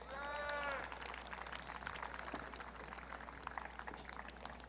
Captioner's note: audience cheering